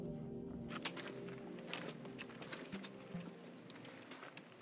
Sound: footsteps

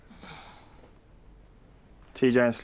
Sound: sighs

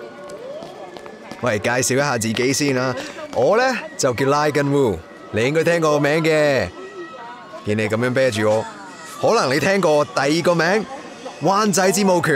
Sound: in Cantonese

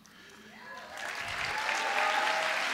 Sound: applause

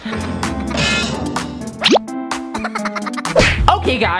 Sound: minion laugh

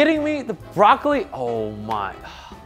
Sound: sighs

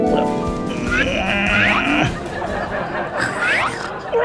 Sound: grunting

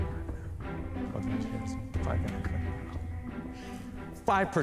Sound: whispering

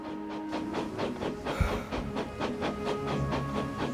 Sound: Thomas sighs

